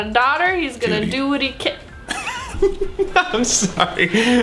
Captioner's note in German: lacht